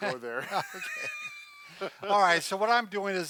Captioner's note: laughter